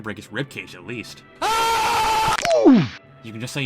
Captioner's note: Sped up Keemstar Scream; Mario 'Oof' Sound